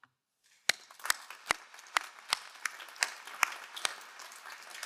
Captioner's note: all applauding